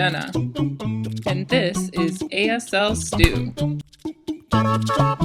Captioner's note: hand slap